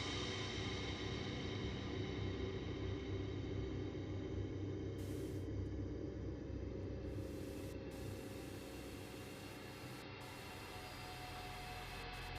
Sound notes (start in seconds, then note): 5.1 static buzzing